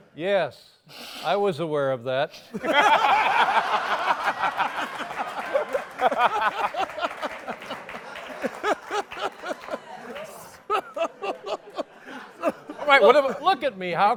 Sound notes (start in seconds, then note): 2.5 laughter